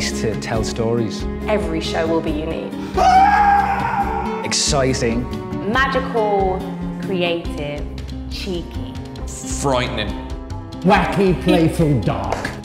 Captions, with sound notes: to tell stories. Every show will be unique. [Scream] Exciting. Magical, creative, cheeky. Frightening. Wacky, playful, dark.